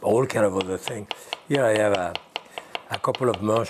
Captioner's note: knife thumping